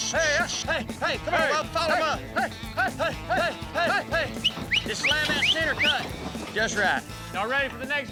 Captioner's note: whistling, prompting cattle; shouting, prompting cattle